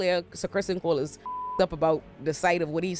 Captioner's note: beep